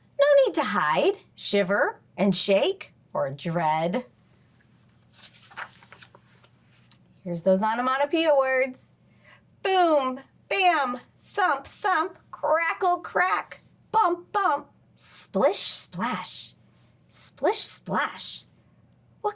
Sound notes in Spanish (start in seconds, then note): 4.8 crujido de página